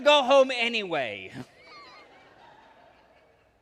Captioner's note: laughter